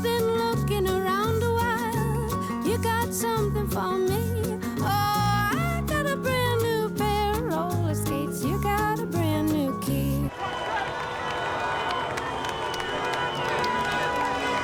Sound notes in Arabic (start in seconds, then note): 10.3 هتاف; 10.4 بوق